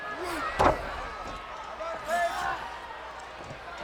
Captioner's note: crowd cheering